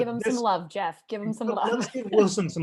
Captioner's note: laughter